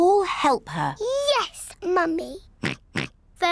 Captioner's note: oinks